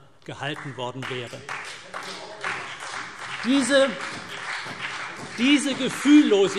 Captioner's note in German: Beifall CDU und BÜNDNIS 90/DIE GRÜNEN